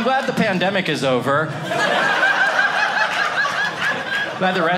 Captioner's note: audience laughing